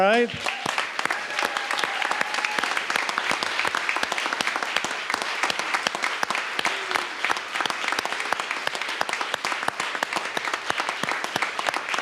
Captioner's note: applause